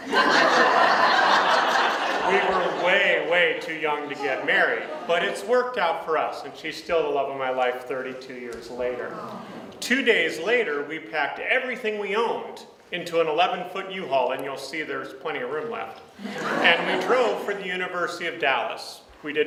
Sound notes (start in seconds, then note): 0.0 audience laughs; 8.9 audience sighs